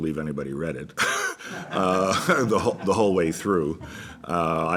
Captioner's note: laughs